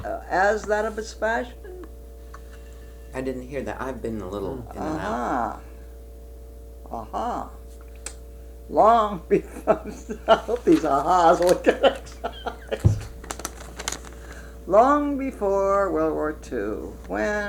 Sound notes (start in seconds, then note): 12.2 laughter; 16.1 laughs